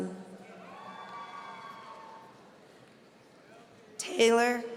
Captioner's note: audience cheering